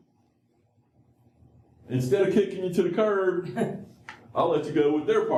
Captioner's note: laughter